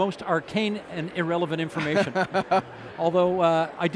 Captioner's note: laughing